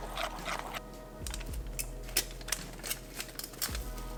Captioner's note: sound of aluminum foil crinkling